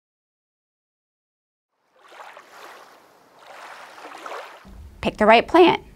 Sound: water sloshing

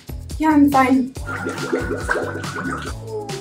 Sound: screaming under water

